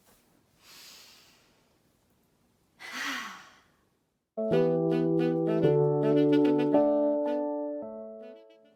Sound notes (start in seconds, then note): 0.6 both inhale and exhale loudly; 4.4 happy jazzy music